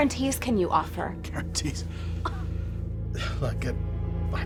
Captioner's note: laughing